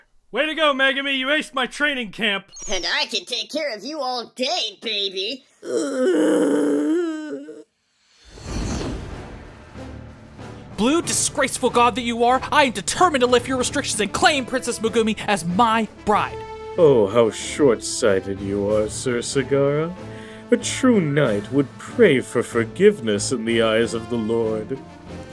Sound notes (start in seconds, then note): 5.6 groaning